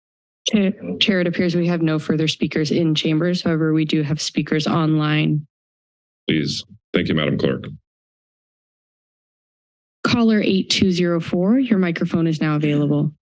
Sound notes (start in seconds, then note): 8.4 silence